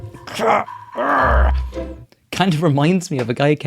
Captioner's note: groans